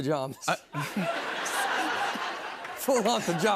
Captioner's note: laughter